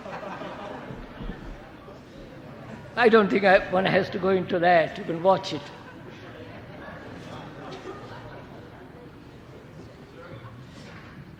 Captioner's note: laughter